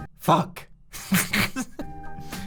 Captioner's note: laughs